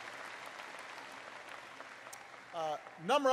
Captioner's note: applause